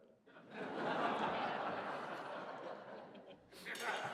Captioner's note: laughter